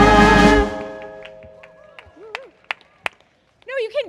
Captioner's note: cheers and applause